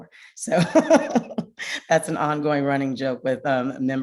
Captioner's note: laughs